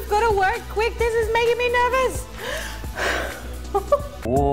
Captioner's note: chuckles